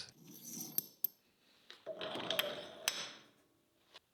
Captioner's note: metal clanking